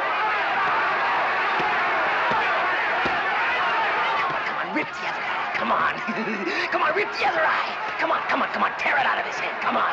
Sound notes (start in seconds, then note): 5.9 chuckling